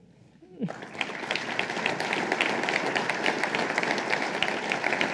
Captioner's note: applause